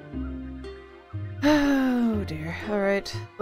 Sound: sighs

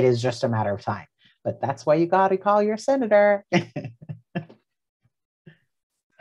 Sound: laughs

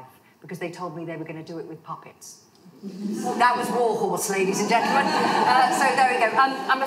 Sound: laughter

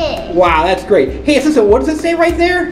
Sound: voiceover

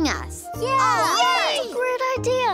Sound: class cheering

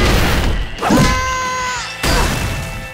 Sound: groaning

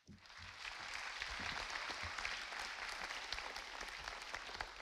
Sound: audience applauding

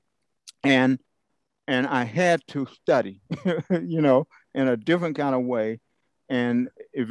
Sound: laugh

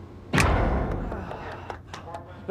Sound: short bang

